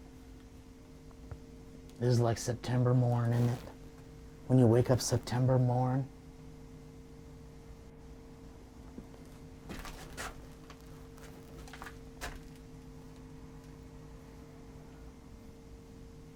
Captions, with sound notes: This is like September morning, when you wake up September morn. (crackling debris)